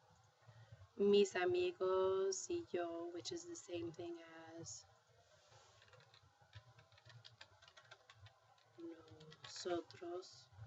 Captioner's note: speaking spanish; spanish